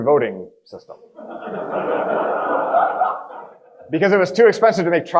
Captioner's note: audience laughing